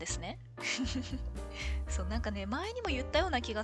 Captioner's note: laughs